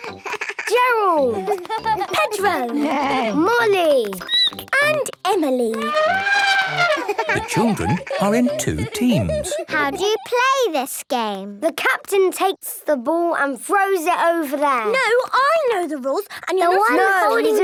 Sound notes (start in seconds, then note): 0.0 laughing; 1.9 neighing; 4.1 squeaking; 5.7 trumpeting